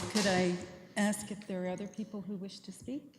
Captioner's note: applause